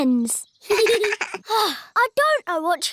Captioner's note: both laugh